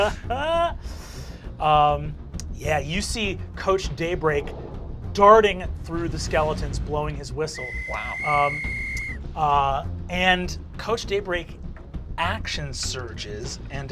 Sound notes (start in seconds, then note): 0.0 Fabian laughs; 0.0 laughs; 7.5 whistle blows